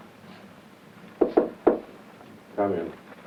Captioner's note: knocks on door